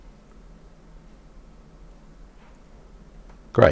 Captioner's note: silence